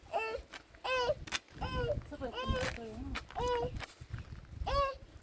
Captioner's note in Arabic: بكاء